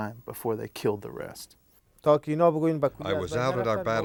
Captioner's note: non-english speech